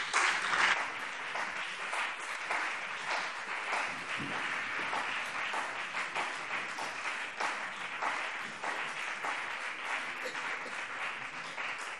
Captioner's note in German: Beifall BÜNDNIS 90/DIE GRÜNEN und CDU